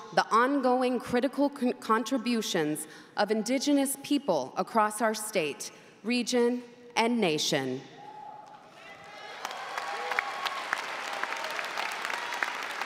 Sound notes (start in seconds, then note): 8.0 crowd cheering